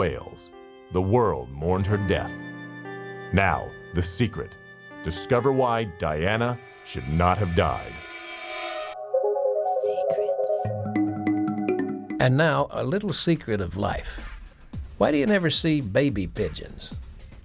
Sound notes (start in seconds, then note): 11.5 intriguing music; 11.5 lady whispering "secrets"